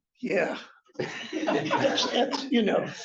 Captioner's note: laughter